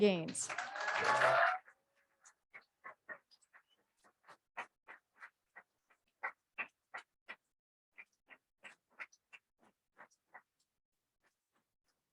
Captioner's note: applause